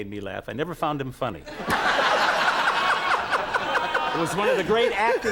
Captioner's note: Conan and the audience laugh